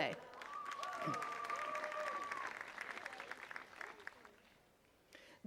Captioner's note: attendees cheering and clapping